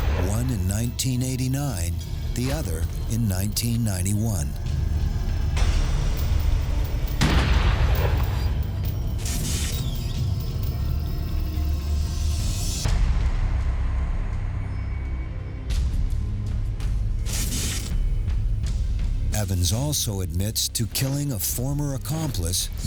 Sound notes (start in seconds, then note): 7.2 gunshot booming; 9.3 suspenseful music